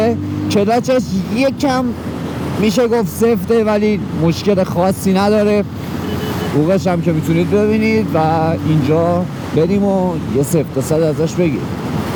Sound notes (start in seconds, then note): 5.8 rapidly honking